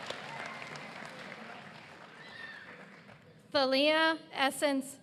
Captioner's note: applause